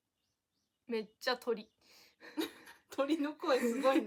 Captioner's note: they laugh